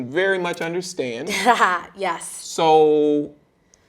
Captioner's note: chuckling